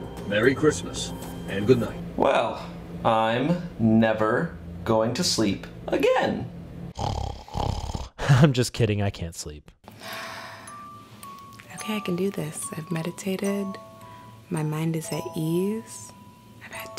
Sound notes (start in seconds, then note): 6.9 snoring; 10.1 sighs